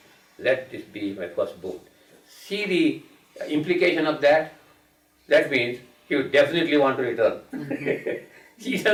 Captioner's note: chuckling